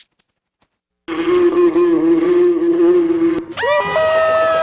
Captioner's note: fly buzz echoing; SpongeBob and Patrick screaming